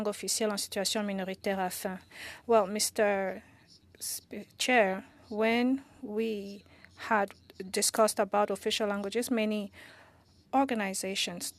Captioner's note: speaking French